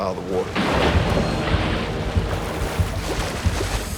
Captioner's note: splash